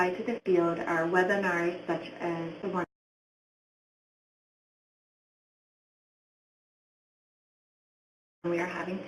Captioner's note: audio drops